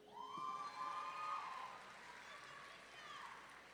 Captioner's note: audience members whooping